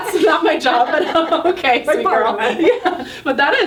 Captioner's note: laughing